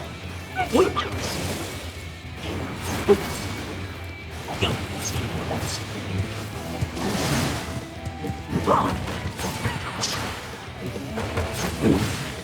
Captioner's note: gunshots